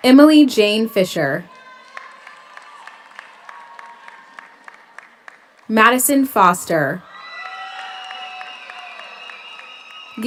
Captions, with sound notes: Emily Jane Fisher. (audience cheers) (audience applauds) Maddisen Foster. (audience cheers) (audience applauds)